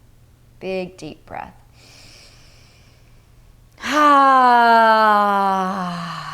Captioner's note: inhales breath